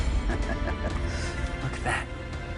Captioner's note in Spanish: Risas